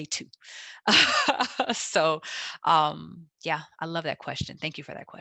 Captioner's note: laughs